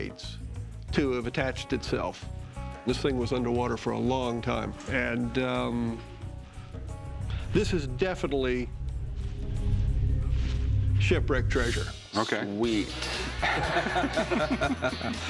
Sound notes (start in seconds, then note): 13.0 laughter